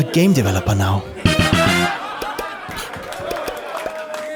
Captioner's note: laughter & applause